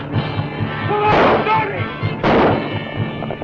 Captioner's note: gunshots; shouting